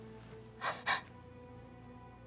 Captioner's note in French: rire haletant